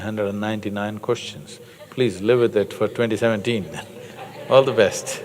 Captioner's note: laughter